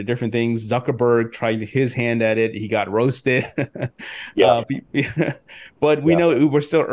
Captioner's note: laughs